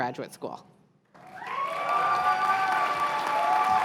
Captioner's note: cheers and applause